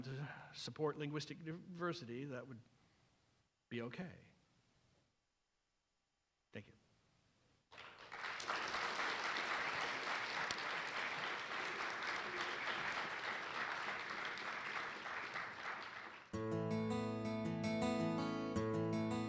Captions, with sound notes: to support linguistic diversity, that would be OK. Thank you. [APPLAUSE] [INSTRUMENTAL MUSIC]